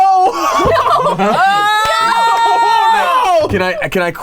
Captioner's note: laughs; chuckles; claps